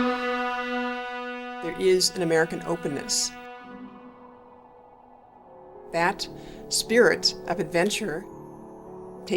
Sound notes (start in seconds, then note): 3.9 wind blowing